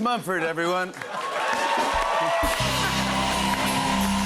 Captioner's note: cheers and applause